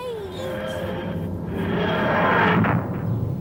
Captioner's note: TARDIS materializing